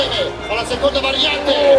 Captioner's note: commentator in Italian